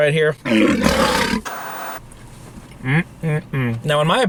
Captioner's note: lion roaring